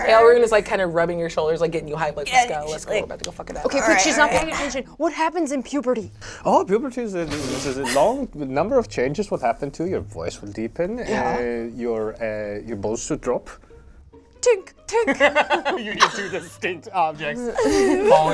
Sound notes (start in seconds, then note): 14.4 imitates clanging; 15.1 laughing